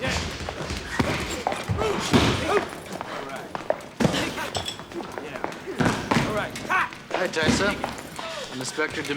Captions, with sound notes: Yeah. (men grunting) All right. Yeah. All right. Hi, Tysa.